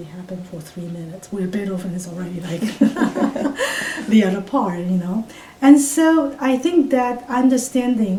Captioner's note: all laugh